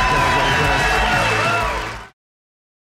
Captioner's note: audience cheering